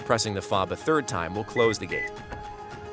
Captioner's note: electronic beeps